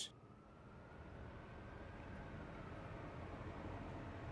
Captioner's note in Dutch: sirenes in de verte